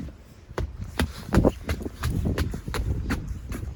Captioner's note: footsteps